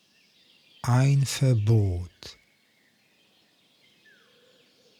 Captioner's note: german